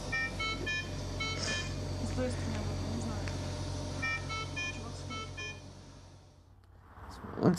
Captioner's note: machine beeps